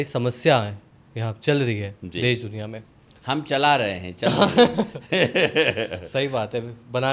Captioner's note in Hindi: हंसी